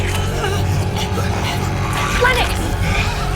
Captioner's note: Ava grunts